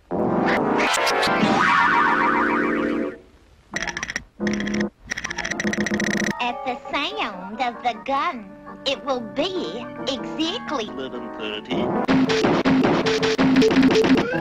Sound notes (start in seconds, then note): 3.7 teeth chattering; 12.1 bang Bang Bang